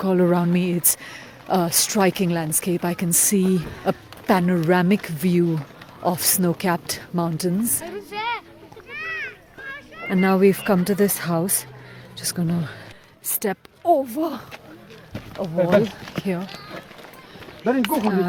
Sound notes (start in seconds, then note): 7.9 children shout